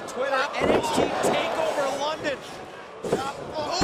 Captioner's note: crowd cheering